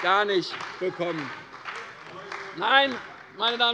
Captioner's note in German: Beifall bei der CDU und dem BÜNDNIS 90/DIE GRÜNEN